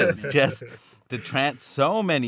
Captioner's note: laughter